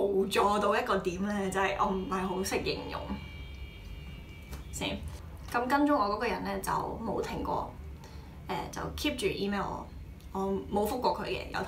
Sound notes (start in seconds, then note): 4.0 car horns